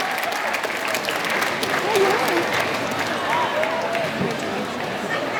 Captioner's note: speaking off microphone